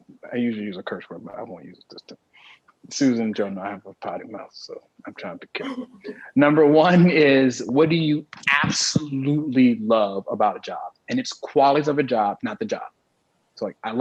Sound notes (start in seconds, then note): 5.5 panelists laugh